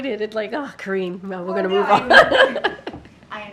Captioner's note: laughs